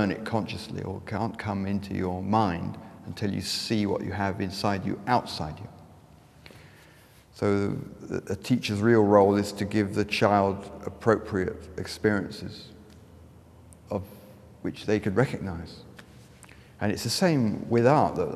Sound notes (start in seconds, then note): none